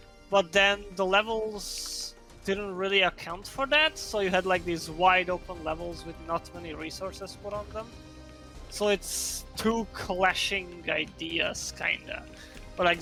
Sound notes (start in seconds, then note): none